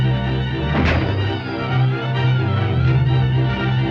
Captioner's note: gun firing